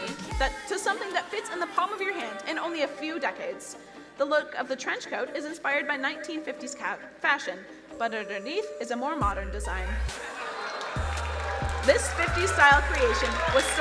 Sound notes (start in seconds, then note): 10.1 crowd cheering and applauding